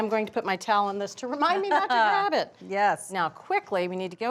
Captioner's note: laughs